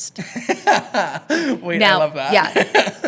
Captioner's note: laughing